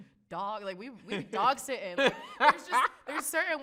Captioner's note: laughs